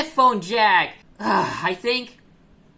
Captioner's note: angy sigh